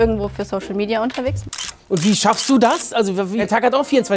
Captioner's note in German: Fotoklicken